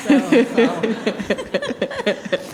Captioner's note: laughing